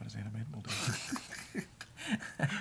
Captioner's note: both laugh